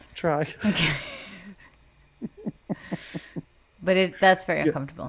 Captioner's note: both laugh